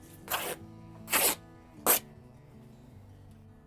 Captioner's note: tearing